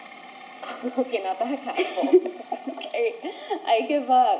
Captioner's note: laughs